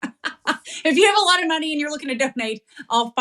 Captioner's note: laugh